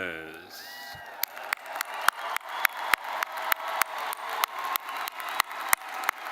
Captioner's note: attendees cheering and applauding